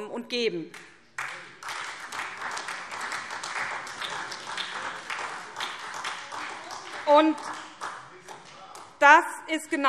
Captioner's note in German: Beifall : Am nächsten Tag!